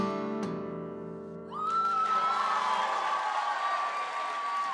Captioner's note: cheering and applause